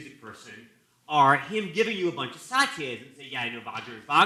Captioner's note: non-english speech